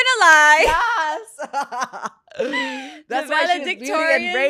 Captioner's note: laughs